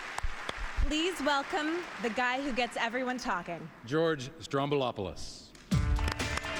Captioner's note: applause